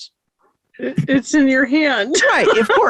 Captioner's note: laughing